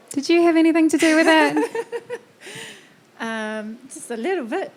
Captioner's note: laughing